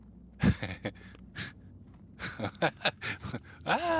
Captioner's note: laughing